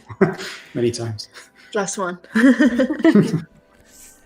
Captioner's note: laughs